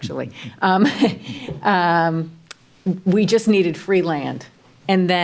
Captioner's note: laughs